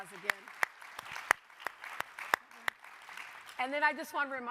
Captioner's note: audience applauding